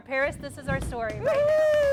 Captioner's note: �applause�; �cheering and applause�